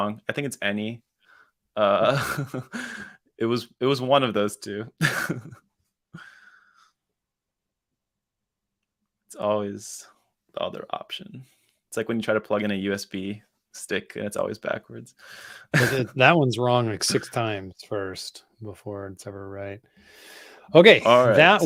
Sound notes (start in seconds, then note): 5.1 laughs